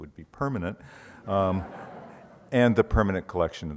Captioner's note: audience laughs